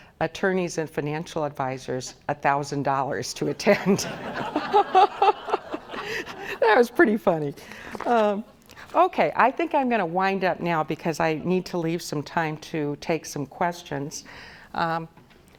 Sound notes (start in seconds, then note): 3.5 audience laughs